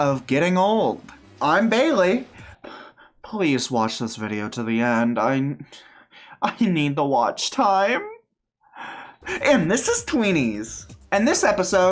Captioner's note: aside sounding desperate